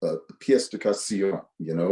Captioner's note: speaks foreign language